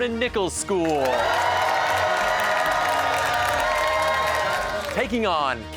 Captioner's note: cheers and applause